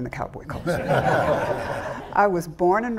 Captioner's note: all laughing